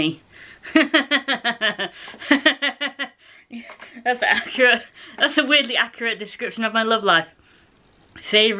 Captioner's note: laughter